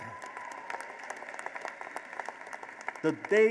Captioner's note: applause